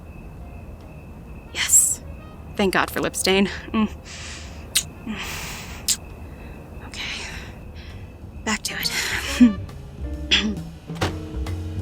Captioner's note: kiss; sighs